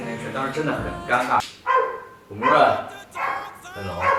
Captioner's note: woof